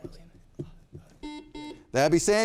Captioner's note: buzzer beeping